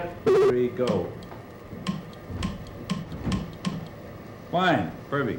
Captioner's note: buzzing/beeping; clicks